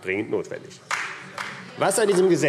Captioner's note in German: Beifall AfD